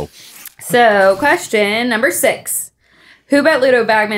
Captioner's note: paper crinkling; letters shuffling